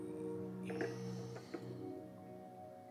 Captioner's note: Sighs